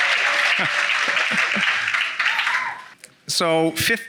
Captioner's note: chuckling